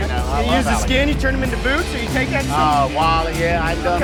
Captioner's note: murmurs